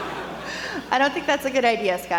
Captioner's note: laughter